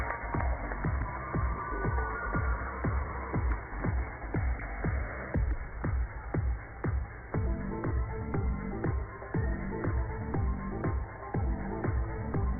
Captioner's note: cheers and applause